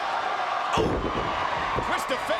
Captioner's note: audience cheering